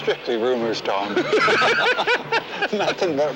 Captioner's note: both laughing